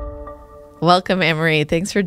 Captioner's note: pulse sound